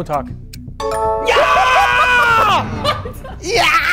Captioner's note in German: Lachen